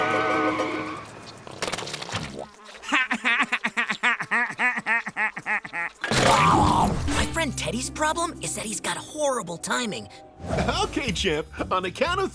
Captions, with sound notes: [laughing] My friend Teddy's problem is that he's got horrible timing. Okay, Chip, on the count of three,